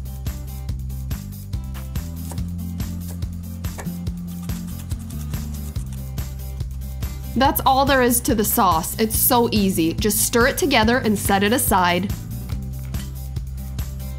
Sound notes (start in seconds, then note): 0.1 upbeat music; 2.0 quick knife slicing